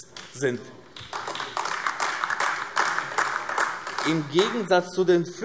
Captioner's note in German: Beifall AfD